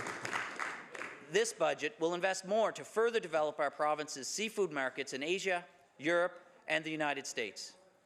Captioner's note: some Applause